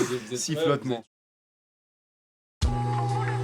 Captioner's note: laught